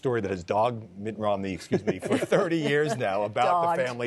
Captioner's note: laughter